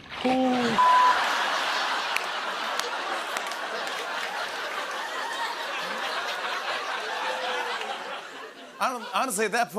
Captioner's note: laughter